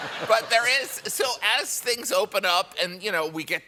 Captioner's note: laughter